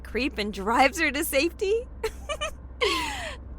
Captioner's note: laughing